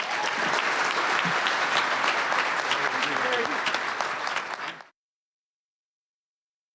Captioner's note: audience applause